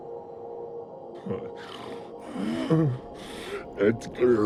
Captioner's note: panting